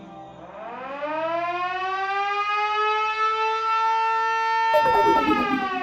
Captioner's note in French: Sirène d'alarme